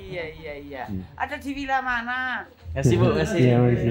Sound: speaking Javanese

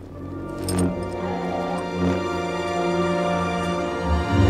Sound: lightsaber wooms

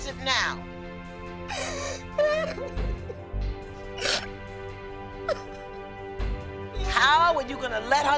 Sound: sobbing

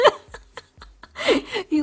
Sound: laughs

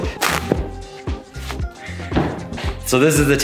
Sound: cloth ripping

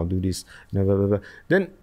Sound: murmurs

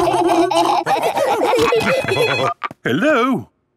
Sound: laughing; phone ringing

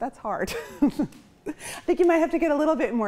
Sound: chuckles

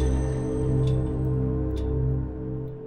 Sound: elevator clanks

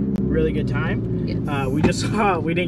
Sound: car visor thuds

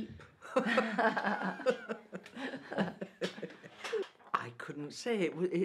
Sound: laughter

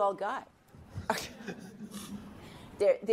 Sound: laughter

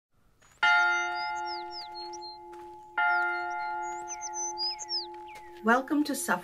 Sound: bell ringing

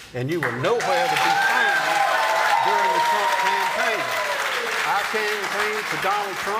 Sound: applause

